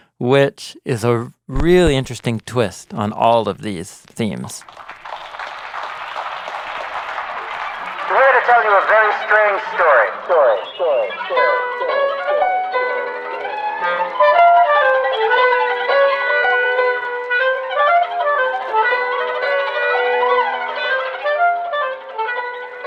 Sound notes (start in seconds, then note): 4.6 audience applauding; 10.9 echoing; 11.4 melodic music